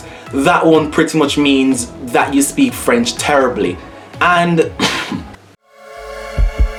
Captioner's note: coughs